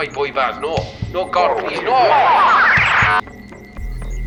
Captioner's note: audio distorts